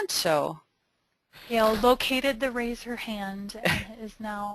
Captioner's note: voiceover